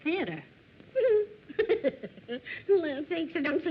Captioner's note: laughter